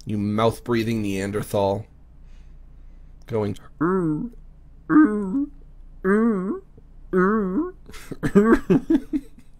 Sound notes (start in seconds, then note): 6.0 groaning; 7.1 laughing, groaning